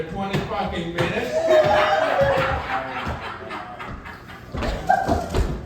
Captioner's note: audience laughing